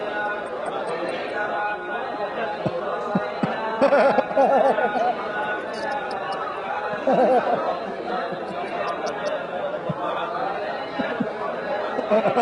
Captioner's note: Ketawa